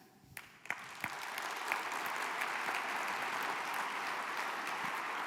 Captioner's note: applause